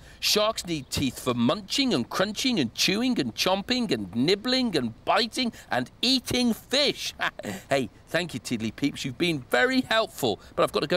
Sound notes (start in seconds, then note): 7.0 chuckles